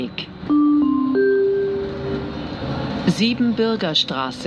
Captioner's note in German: Gong